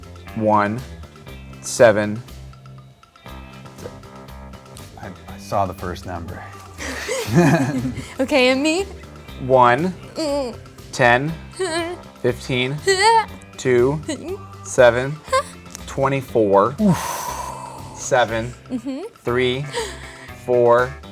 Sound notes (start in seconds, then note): 6.7 laugh